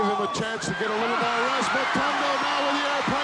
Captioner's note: audience cheering